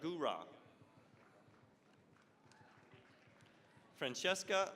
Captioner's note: applause